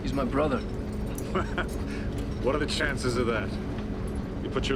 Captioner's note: laughs